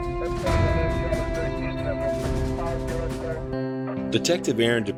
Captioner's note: police radio chatter